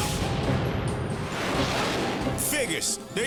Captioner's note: explosion